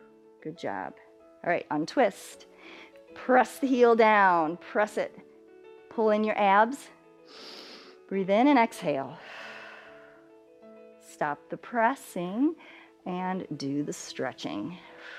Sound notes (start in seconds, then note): 7.3 inhales; 10.1 exhales